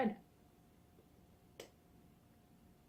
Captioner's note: smacks lips